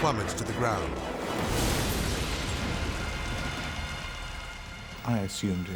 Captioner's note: jet smashing